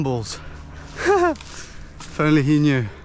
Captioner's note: laughs